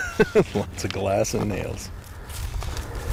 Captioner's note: laughs